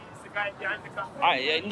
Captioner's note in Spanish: charla confusa